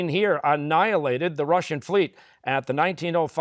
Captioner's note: none